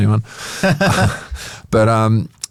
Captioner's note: both laugh